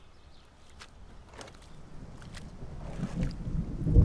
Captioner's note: birds chirping; water sloshing; thunder rumbling